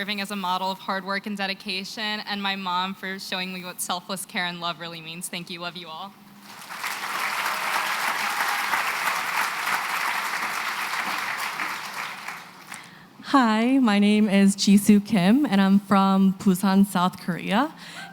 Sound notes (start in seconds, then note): 6.4 applause